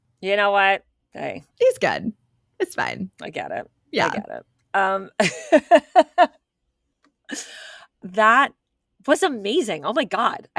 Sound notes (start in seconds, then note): 5.4 laughs